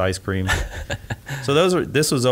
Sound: laughs

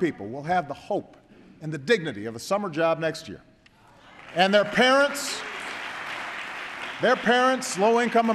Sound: applause

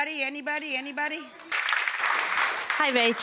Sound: audience applause

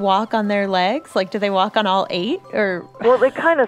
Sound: chuckles

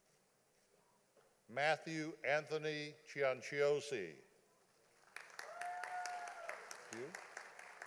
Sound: audience applauding

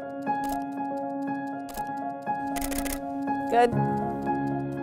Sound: camera clicks

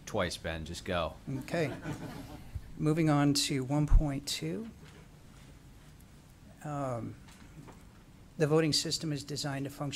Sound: laughter

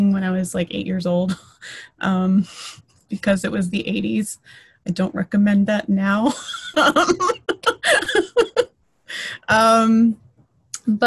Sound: laughter

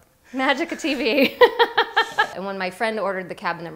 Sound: laughing

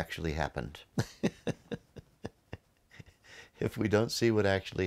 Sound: laughs

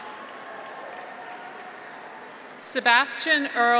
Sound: audience applauds; graduates cheer

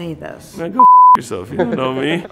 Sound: beep

